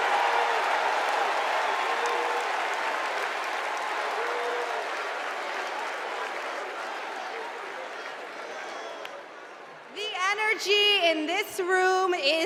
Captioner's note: cheers and applause